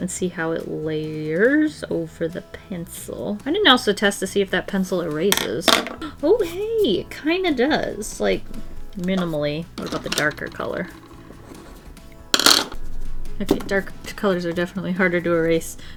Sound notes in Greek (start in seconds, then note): none